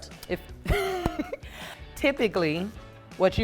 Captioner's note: laughs